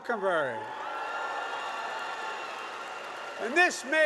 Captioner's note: applause